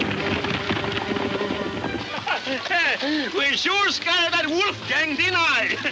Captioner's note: laughing